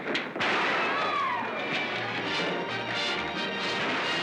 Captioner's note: gunshots